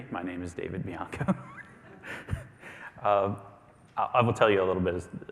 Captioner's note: laughs